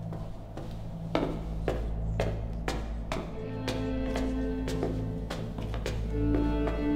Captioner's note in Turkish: Ayak sesi